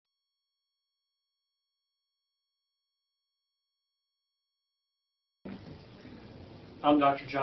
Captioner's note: silence